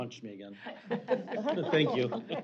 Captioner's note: laughter